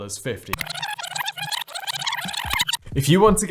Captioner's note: video squeaking